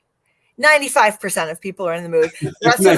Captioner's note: laughter